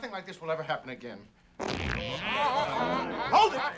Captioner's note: farting sounds